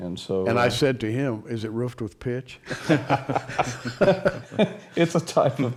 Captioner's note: laughter